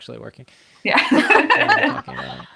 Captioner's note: laughs